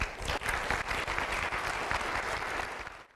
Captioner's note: applause